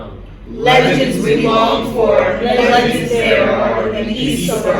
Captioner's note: in Unison